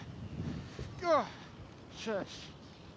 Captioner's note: huffs and puffs